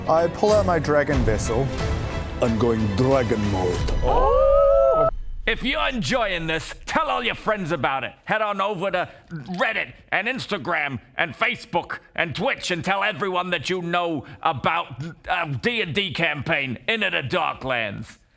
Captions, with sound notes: I pull out my dragon vessel. I'm going dragon mode. *collective ooh's* If you're enjoying this, tell all your friends about it. Head on over to Reddit and Instagram and Facebook and Twitch and tell everyone that you know about the D&D campaign, Into the Dark Lands.